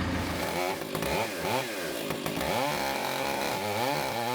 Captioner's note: chainsaw buzzing